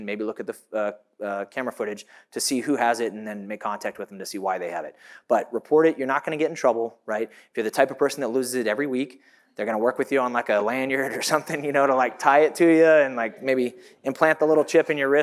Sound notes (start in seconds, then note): 11.0 chuckles